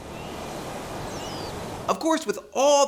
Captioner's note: peaceful nature sounds